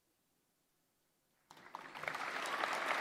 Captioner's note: applause